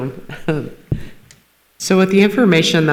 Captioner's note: chuckles